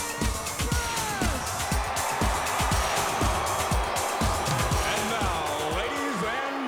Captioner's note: crowd cheering